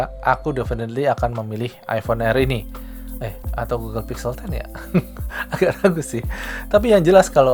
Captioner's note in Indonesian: tertawa